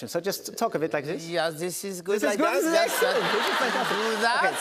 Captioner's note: German accent